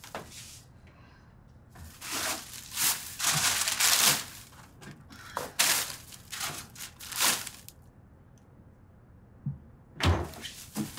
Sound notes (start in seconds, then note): 1.8 plastic bags rustling; 10.0 refrigerator door closes